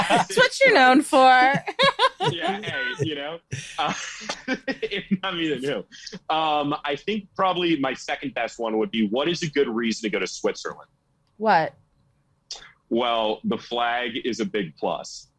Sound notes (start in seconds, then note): 5.4 group laughing; 10.0 laughing